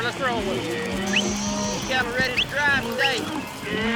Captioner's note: whistling, calling